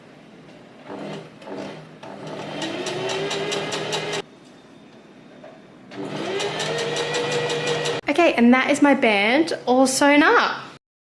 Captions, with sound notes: [sewing machine surges] Okay and that is my band all sewn up.